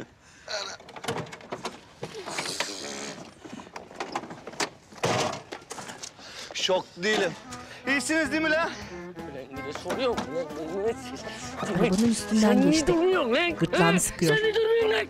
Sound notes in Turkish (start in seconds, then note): 0.6 Kapı açılma sesi